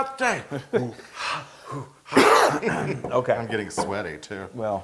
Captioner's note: laugh